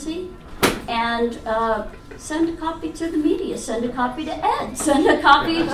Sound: audience laughs

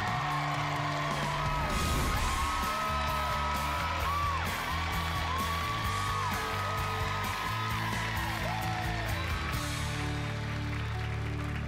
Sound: audience cheering and applauding

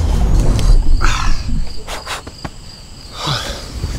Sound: crickets chirping; sighs

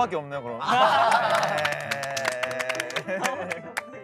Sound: laughing

